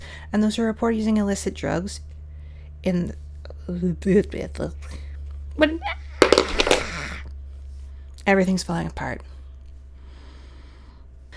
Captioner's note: babbling and crashing noises